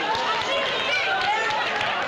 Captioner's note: applause